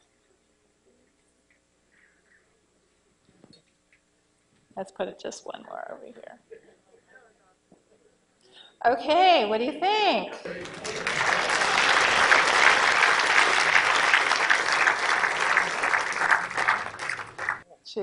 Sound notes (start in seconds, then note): 15.4 applause